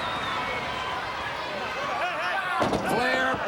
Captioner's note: crowd cheering